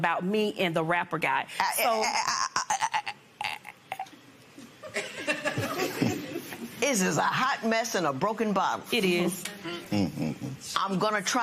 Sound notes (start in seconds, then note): 3.7 stammers; 4.8 laughter